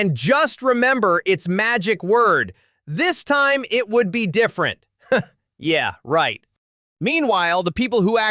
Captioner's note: chuckles